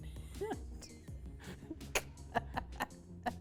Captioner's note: laughter